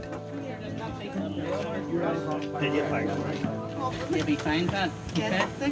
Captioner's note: rescuers all chat together